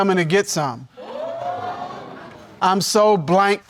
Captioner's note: audience exclaims